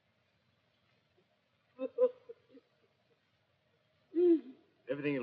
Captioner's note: sobs